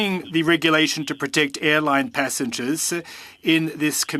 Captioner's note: speaking French